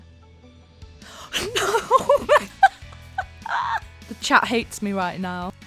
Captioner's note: laughs